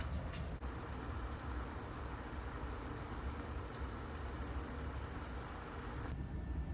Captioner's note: simmer asmr